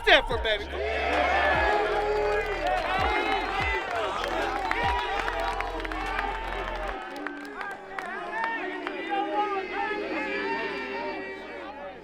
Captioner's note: cheering